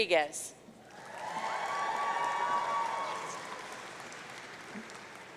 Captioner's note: audience cheering